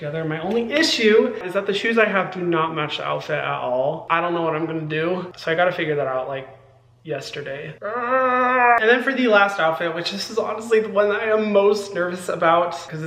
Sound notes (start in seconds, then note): 7.8 Hyram groaning